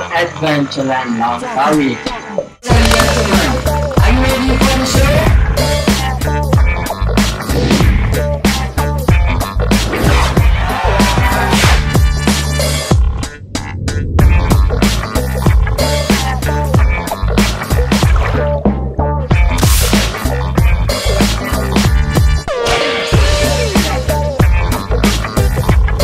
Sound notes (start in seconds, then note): 0.3 crocodile Sound; 11.9 crocodile Sound; 15.9 crocodile Sound; 15.9 water Sound; 19.7 crocodile Sound